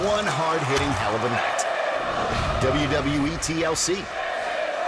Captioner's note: fans chanting